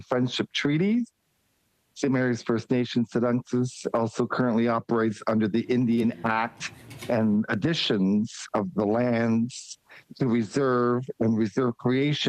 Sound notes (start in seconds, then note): 6.4 speaking Indigenous Language